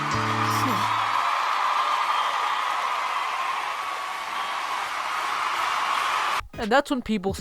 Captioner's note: entire world applauds